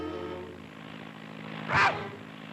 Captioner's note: soft suspenseful music; propellers whirring; bird thudding and squawking